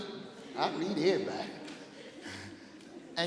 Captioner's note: laughing